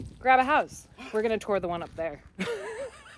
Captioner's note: gasping